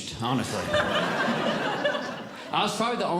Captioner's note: audience Laughing